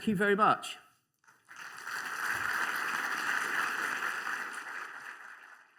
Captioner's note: applause